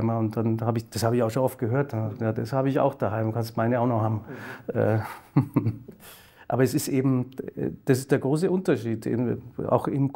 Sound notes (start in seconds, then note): 4.7 chuckles